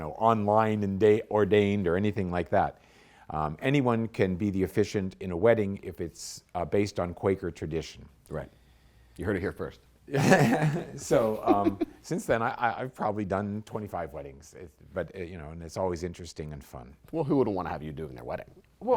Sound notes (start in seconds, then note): 11.1 chuckle